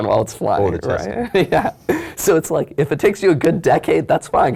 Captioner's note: laugh